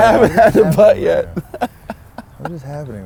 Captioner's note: laughs